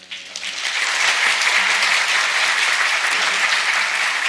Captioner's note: audience applauds